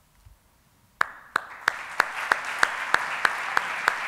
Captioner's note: applauding